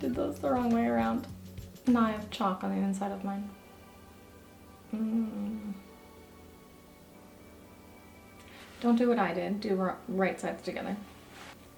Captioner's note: grumble